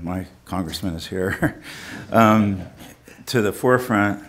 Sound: chuckling

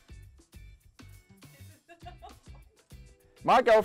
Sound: laughing

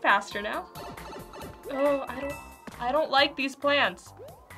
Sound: blipping

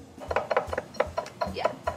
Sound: bowl clanking

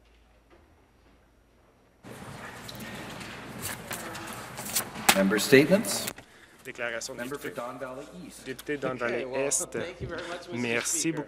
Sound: some Applause

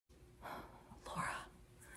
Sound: quietly

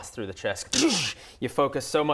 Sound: zap

